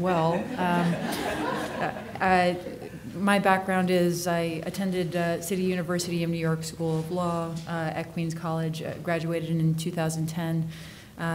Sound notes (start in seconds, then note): 0.1 audience laughing